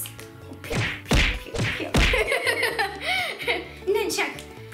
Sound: laughing

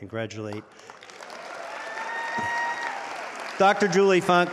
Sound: audience applauding

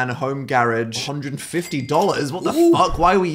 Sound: register rings

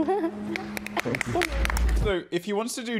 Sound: contestants applaud

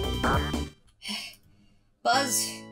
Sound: victorious music; heavy breathing

